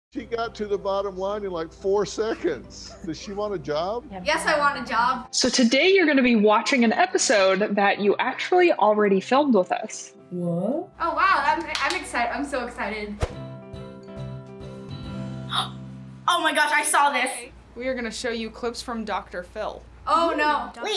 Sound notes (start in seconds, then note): 11.6 claps; 13.2 playful intro; 15.6 gasps